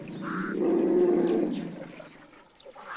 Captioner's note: grunting